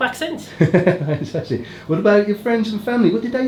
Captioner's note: laughs